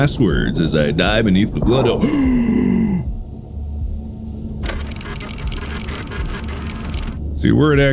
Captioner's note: gasp!; x-ray machine running